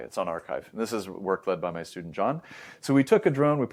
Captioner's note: inhales